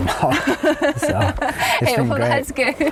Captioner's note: laughing